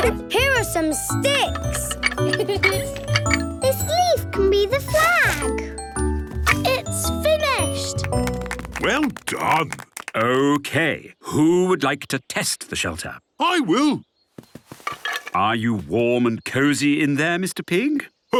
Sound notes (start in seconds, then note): 2.1 laughing; 7.9 applause